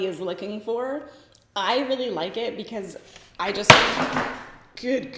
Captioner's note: makeup banging